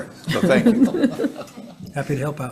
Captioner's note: senators laughing